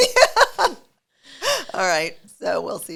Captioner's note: both chuckling